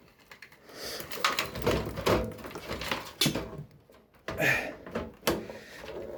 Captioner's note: assorted cables noises